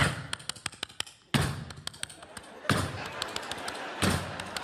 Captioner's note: imitates doors slamming open and footsteps